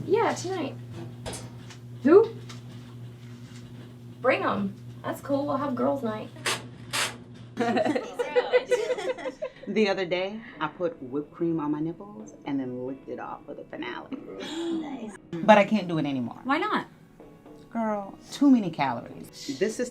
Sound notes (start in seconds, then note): 7.6 giggling